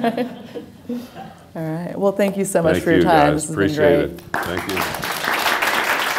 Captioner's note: laughing; applause